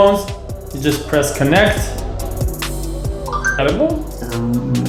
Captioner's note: imitates bells chiming